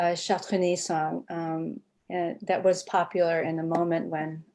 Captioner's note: speaking foreign language